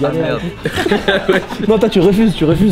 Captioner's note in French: rire